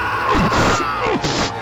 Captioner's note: grunting